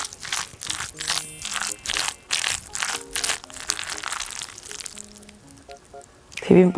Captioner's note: the sticky sound of mixing bibimbap never fails to excite me…♡